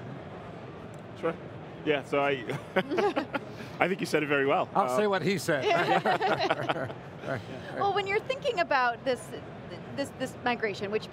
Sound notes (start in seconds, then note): 2.5 chuckles; 5.7 group chuckles